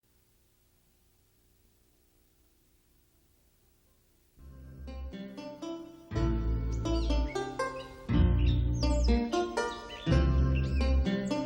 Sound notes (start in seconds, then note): 4.4 soft music; 6.0 birds chirping